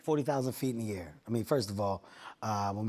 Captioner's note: deep voice